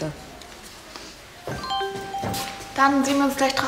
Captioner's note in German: Das Tablet läutet